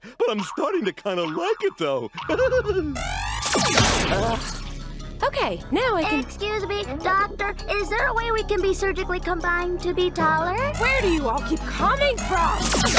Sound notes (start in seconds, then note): 2.2 giggles; 3.0 laser zaps; 12.6 laser zaps